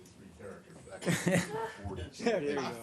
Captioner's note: laughter